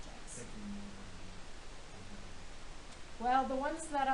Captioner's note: man speaking